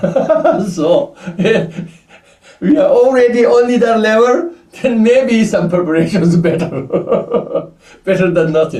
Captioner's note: laughs; laughs